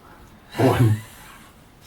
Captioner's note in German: lacht